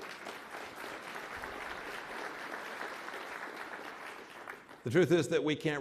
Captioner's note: applause